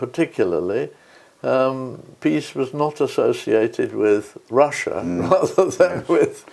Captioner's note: laugh